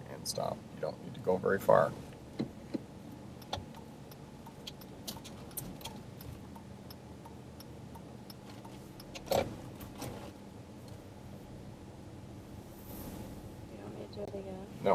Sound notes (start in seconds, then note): 3.2 car signal clicking